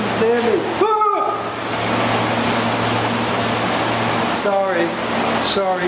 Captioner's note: yell of surprise